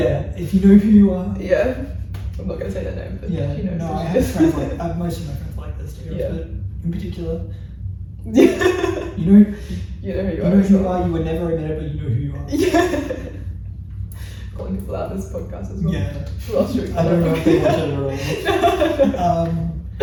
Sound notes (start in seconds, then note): 8.3 laughs